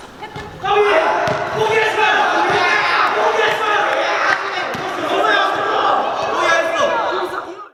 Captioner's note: cheering